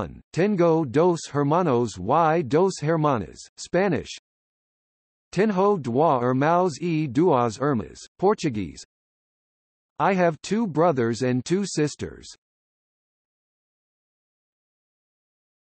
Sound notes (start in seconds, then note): 3.9 Spanish